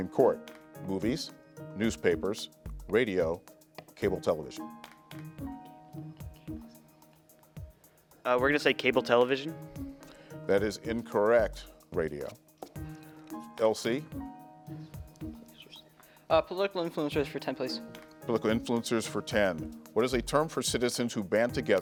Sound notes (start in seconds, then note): 4.6 players whisper; 14.0 tense music